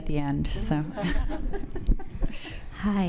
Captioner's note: audience laughs